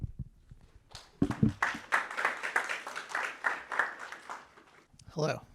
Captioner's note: audience clapping